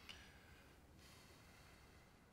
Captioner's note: sighs